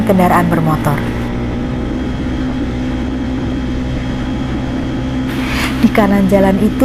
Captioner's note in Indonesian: suara sepeda motor